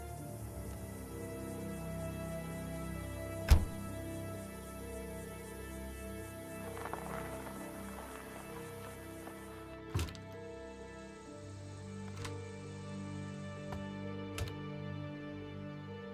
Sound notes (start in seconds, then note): 3.4 car door closing